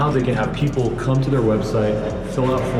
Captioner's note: lobby noise